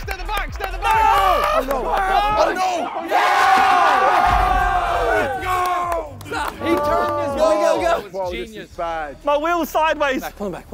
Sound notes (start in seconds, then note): 3.2 all cheering